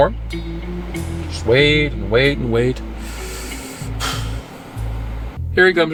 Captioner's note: sighing